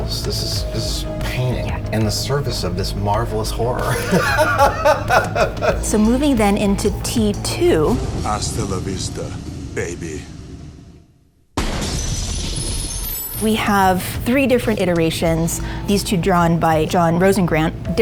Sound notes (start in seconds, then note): 3.8 Adam laughing; 11.6 gunshot booming; 12.4 metal clinking